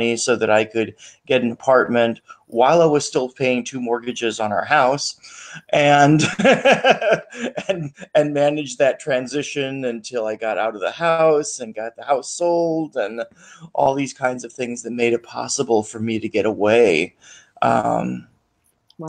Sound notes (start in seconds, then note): 6.2 laughs